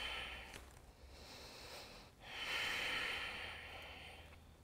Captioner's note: exhales; inhales and exhales